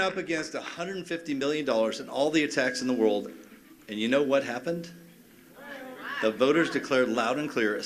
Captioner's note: cheers and applause